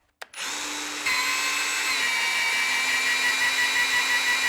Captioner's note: metal grinding